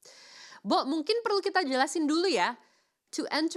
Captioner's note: speaking in foreign language